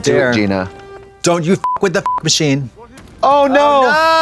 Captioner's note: beep